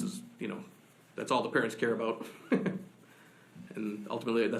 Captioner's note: laughs